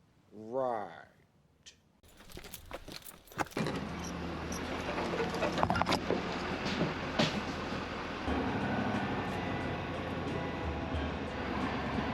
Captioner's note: engine revving